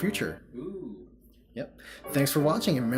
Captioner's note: oooh!